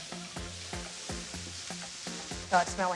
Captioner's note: sizzling